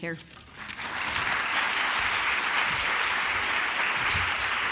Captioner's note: applause